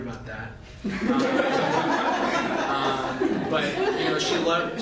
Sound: laughter

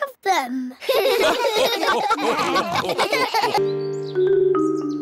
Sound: all laugh

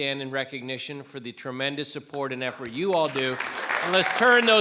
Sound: audience clapping

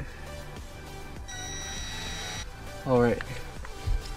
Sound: drilling

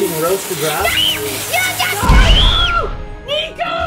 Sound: screaming

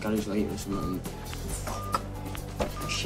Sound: phone beeping

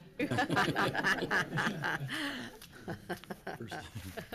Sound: congregation chuckles

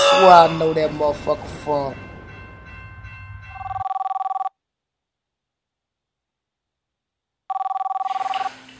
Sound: phone ringing

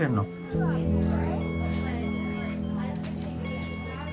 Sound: monitor beeping

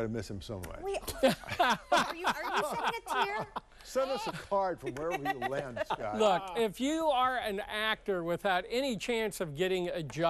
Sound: laughter

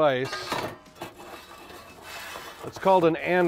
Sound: metal clanking

